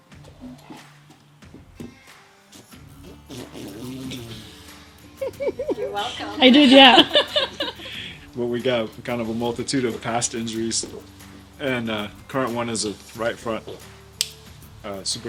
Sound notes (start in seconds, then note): 2.4 mighty yet gentle horse fart; 2.5 tittering behind the camera